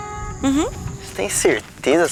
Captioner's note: forest noises